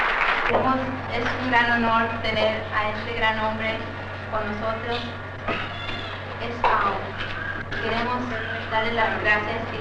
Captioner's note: speaking Spanish